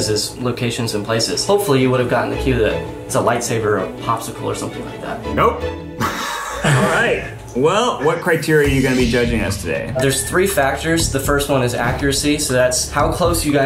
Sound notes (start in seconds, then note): 6.0 group laughing